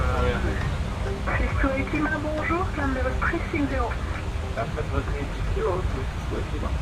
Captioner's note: radio chatter